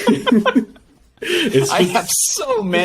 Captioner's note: laugh